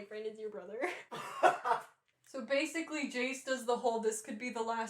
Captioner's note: laughter